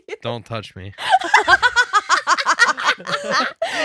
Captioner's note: laughing